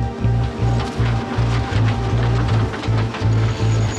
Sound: wind howling

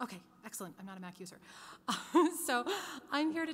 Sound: laughs

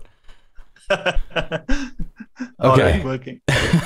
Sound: laughter

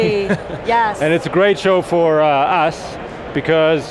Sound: laughs

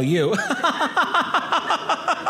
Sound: audience laughing

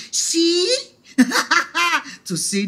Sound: laughing

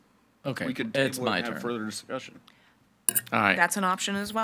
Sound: group chattering

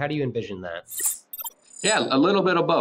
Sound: electronic chimes

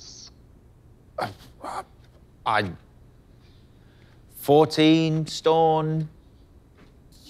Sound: bone thudding

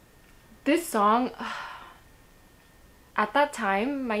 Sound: sighs

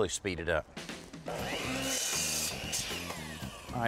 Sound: saw whirring

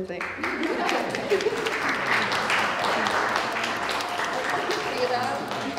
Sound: applause

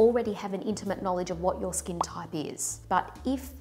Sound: text popping

